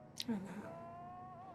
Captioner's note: quietly